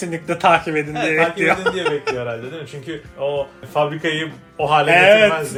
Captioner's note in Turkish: kahkaha